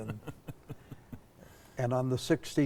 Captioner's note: chuckling